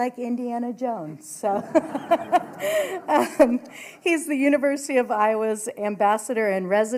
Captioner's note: laughter